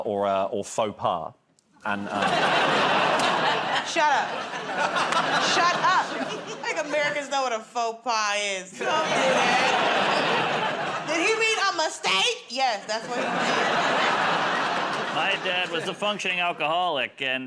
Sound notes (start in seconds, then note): 2.0 laughter; 8.7 laughter